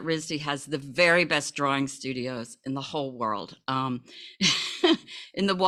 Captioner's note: laughs